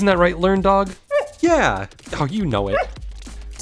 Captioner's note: bark!